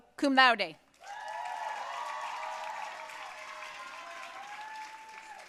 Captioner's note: audience cheering and applauding